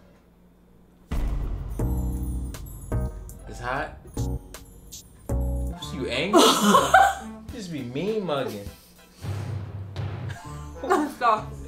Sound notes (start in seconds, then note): 0.0 suspenseful music; 1.4 soft tender music; 6.4 laughs; 9.2 drum bangs